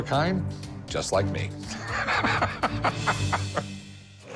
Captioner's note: laughs